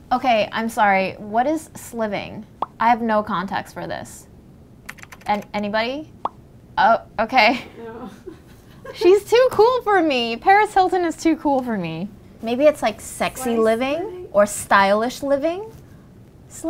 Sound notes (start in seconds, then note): 2.6 bubble pops; 6.2 bubble pops; 7.6 laughs